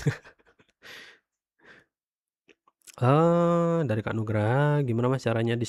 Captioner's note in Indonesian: terkesiap; tertawa